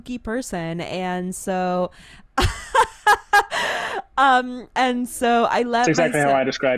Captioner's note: laughs